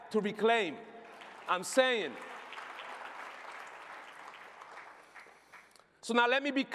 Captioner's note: applause